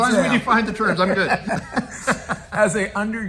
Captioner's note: laughs